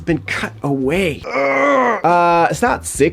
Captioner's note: grunting